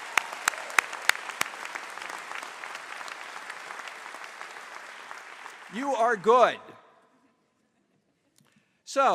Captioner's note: applause